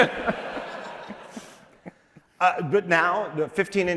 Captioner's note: laughter